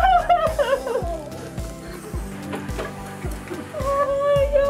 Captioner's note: joyful crying